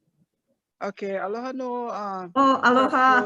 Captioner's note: speaks in foreign language